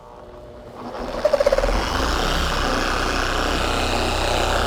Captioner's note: TORQ22D motor running